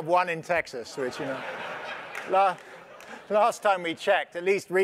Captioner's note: laugh